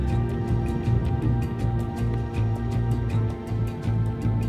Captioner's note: wind howls